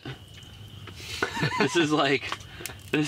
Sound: laughing

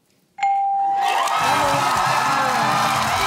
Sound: cheering and applause; theme music playing

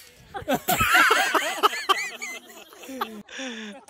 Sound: laughing

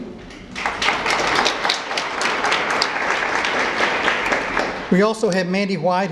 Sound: applause

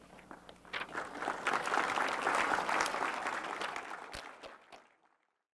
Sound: applause

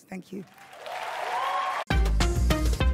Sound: cheering

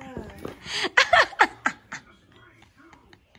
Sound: laughter

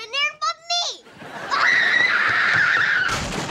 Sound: screaming

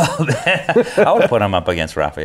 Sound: both laughing

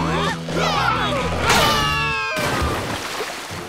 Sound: grunting; screaming; splashing

